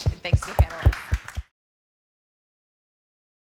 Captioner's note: applause